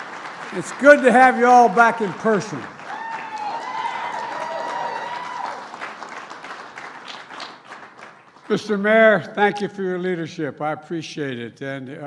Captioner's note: cheers and applause